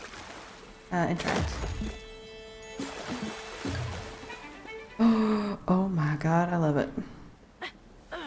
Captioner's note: gasp